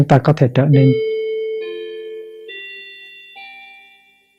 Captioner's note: wall clock chiming